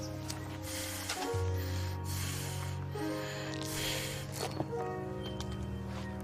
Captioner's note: sad music; breathing